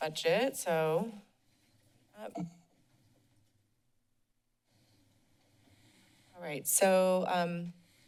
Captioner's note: silence